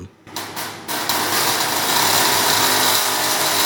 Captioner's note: sound of electricity being discharged